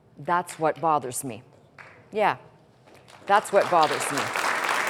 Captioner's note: applause